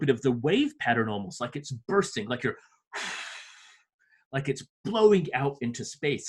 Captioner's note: blows air